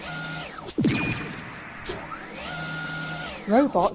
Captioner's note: zap!